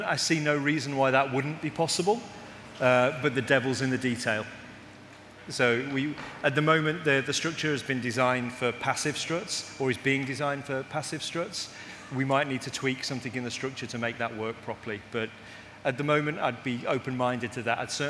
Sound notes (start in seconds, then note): none